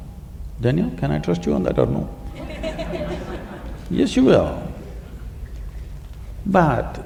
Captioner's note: few laugh